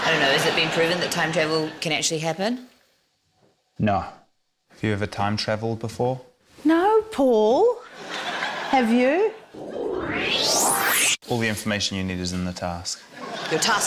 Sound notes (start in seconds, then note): 9.6 whoosh!